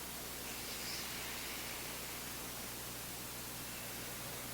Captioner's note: both breathe deeply